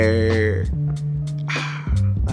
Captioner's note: sigh